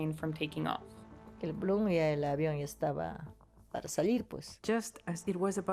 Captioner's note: speaking in foreign language